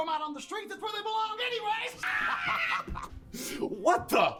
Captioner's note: laughing